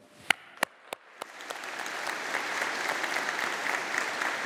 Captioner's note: audience applauding